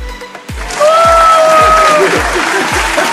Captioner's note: squeals of joy